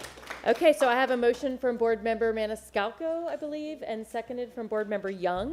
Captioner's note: applause